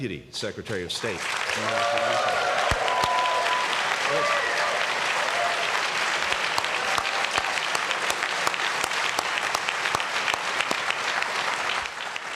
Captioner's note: cheers and applause